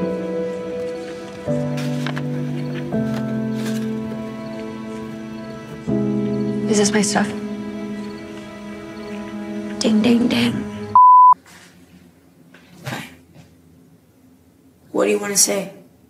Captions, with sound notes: (slow sad music) Is this my stuff? - Ding, ding, ding. (beep) Fine. What do you wanna say?